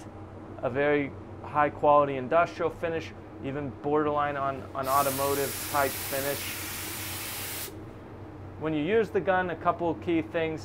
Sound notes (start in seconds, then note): 6.9 paint spraying